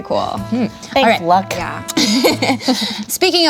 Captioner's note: laughs